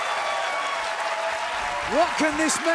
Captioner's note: crowd cheering